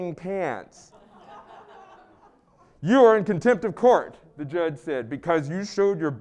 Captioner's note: laugh